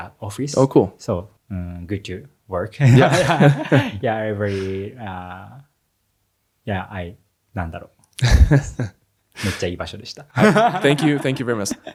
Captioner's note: laughs